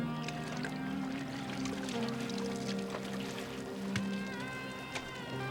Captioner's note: water splashing